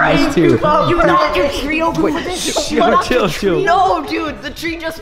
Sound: boys shouting

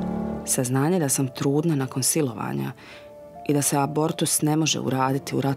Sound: woman speaking in foreign language

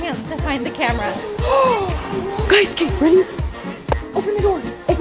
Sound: gasps

